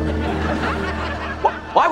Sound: laughing

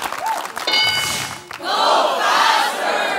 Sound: bell dings

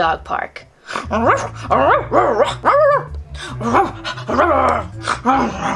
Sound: excited barking and growling

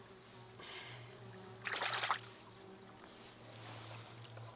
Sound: mosquitoes buzzing

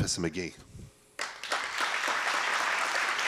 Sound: applause

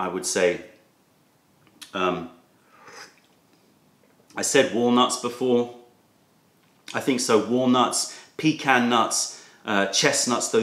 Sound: sips tea

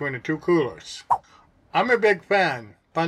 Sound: swipe sound

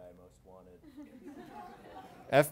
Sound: laughter

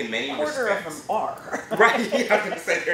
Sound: laughter

